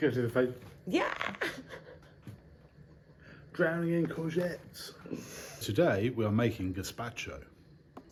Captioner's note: laughing